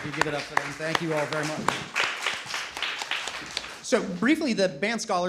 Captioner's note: audience applauding